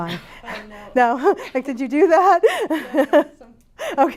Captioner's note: laughs